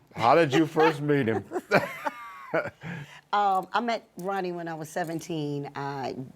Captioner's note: laughter